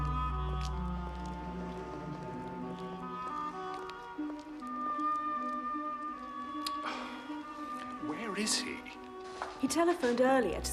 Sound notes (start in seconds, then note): 6.6 Menghela napas